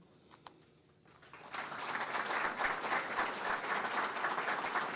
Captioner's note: audience clapping